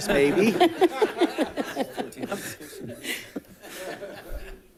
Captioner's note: all laughing